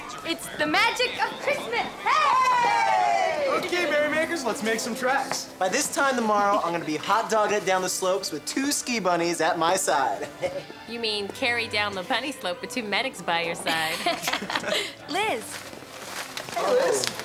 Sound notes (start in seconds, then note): 13.8 all chuckling